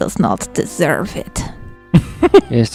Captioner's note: laughs